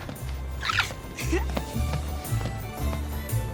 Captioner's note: peyton giggling